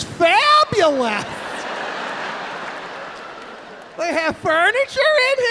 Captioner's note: audience laughing